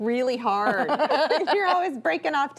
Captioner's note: laughs